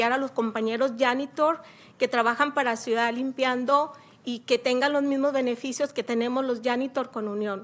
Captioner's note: speaking spanish